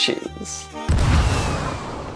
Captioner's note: cannon fire